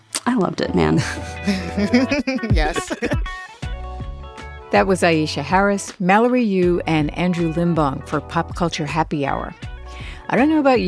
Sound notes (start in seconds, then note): 1.0 laughter